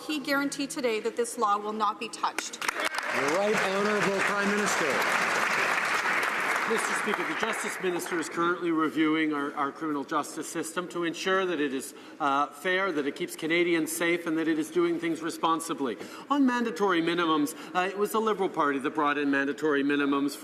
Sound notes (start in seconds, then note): 5.6 some Applause